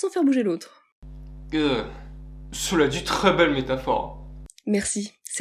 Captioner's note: disgust